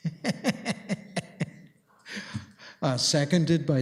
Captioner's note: laughs